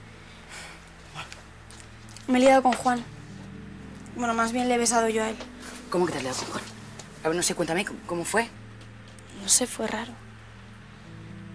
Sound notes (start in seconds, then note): 0.6 whispering